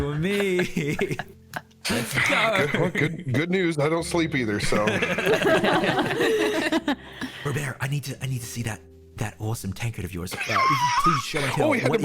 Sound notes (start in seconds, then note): 0.3 all laughing; 4.7 tired streamers laughing